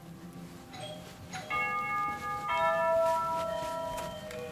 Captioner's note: doorbell rings